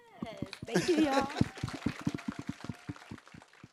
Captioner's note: group clapping